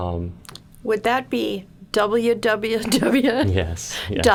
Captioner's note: laughing